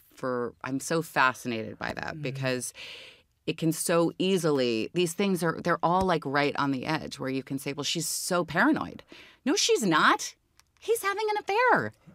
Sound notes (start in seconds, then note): none